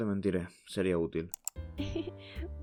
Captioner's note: click